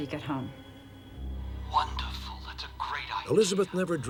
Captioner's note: on phone